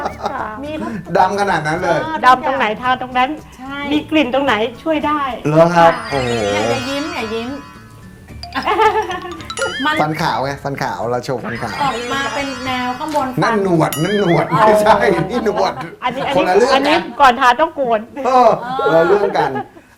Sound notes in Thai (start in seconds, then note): 0.0 เสียงหัวเราะ; 8.3 เสียงเอฟเฟกต์